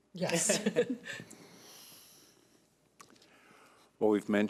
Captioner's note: laughing